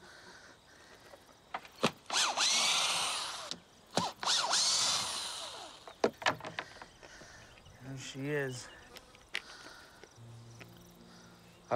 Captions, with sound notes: (electric screwdriver grunts and whirs) There she is. (tender music)